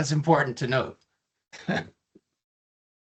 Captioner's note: chuckling